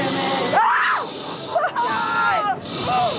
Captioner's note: screaming